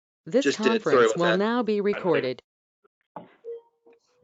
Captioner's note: electronic Voice